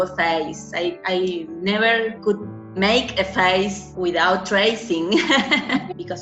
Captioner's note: laughs